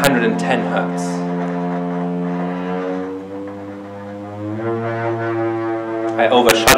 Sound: high-pitched buzzing

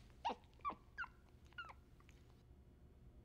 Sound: monkey Sounds

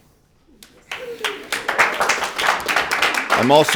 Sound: spectators applauding

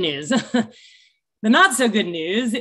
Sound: chuckles

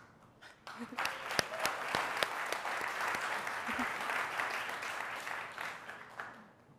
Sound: audience applauding

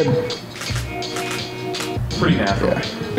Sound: camera clicks

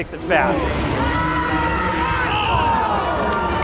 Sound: cheering

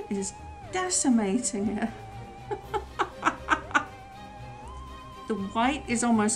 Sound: laughs

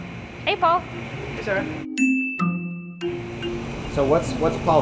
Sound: ding

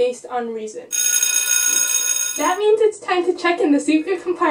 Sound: bell dings

